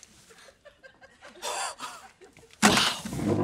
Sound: gasping

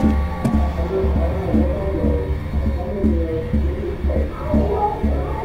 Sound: muffled parents yelling

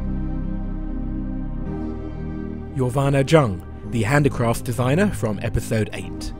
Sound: voiceover

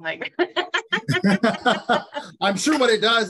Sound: laughing

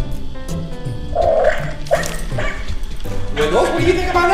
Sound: barking

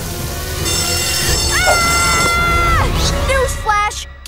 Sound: screaming

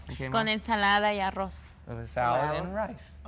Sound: speaks in Spanish

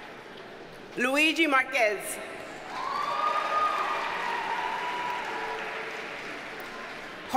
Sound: audience cheers and applauds

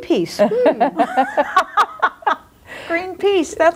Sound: group laughs

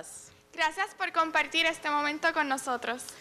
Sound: speaking in spanish

